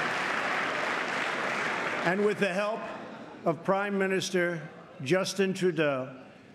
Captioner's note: applause